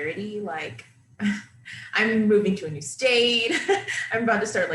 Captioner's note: laughing